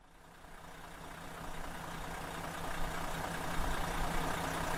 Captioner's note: coach engine chugging